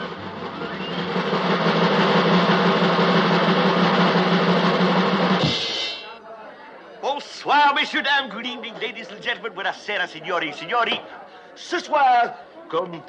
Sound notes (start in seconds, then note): 0.0 suspenseful drumming; 6.6 speaking French